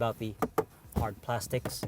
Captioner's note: tap tap